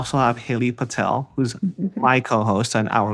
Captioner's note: laughs